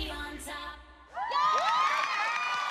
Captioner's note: loud cheering